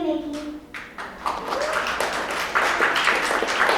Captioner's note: applause